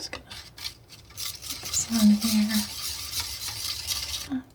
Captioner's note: scratching